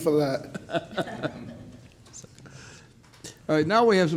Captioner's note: judge laughs